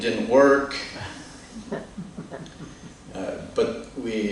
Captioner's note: laughter